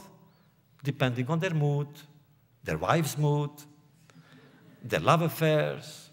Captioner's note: laughter